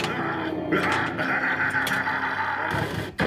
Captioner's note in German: Bösartiges Lachen aus dem Flipper